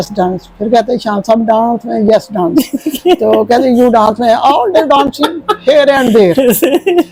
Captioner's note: laughter